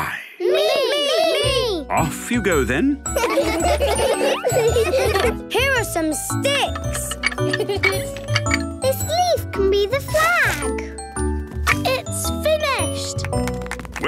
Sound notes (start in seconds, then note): 3.1 laughter; 7.5 laughing; 13.2 applause